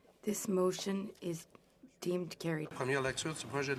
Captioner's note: speaking French